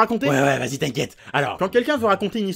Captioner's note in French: accent du sud